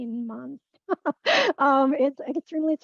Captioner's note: chuckles